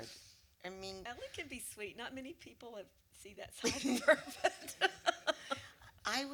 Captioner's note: laughs